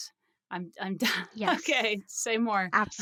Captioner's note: laughs